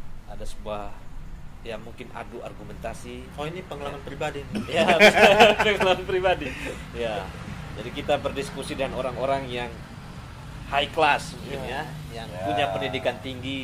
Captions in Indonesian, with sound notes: ada sebuah, ya mungkin adu argumentasi/Oh Ini pengalaman pribadi nih/ Ya pengalaman pribadi (tertawa). Jadi kita berdiskusi dengan orang-orang yang high class mungkin ya, yang punya pendidikan tinggi